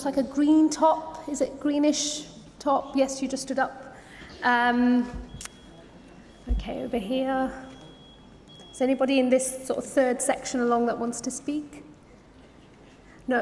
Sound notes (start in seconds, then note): none